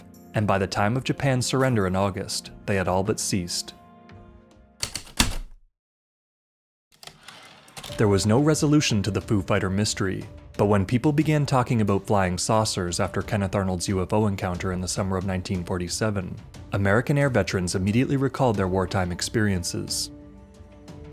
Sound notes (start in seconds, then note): 4.8 heavy typewriter keystrokes, return slide